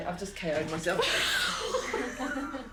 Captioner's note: both laugh